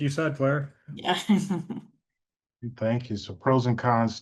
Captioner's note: chuckles